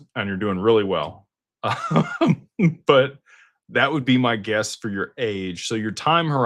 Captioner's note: laughter